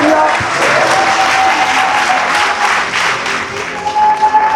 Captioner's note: spectators applauding